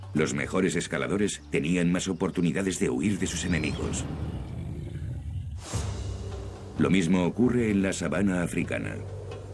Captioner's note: snort